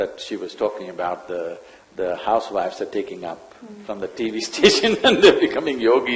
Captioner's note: laughs